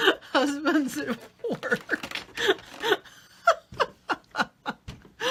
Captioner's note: laughs; laughs